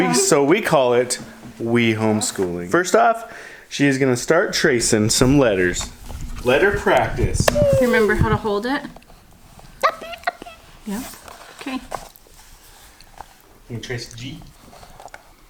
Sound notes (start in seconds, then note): 7.5 babbles; 10.0 babbles